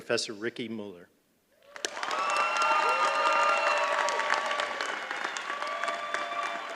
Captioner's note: applause